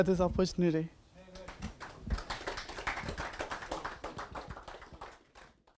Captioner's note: audience applause